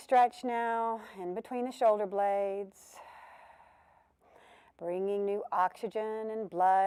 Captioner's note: breath sound